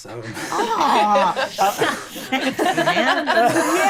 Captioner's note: laughing